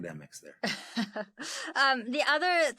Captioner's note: laughing